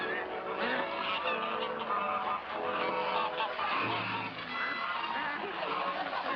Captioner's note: geese honking; water rushing